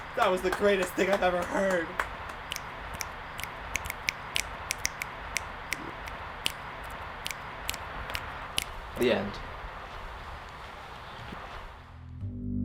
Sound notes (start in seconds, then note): 2.2 claps and snaps become louder